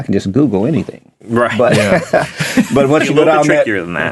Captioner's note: laughing